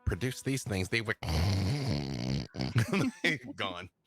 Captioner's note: snores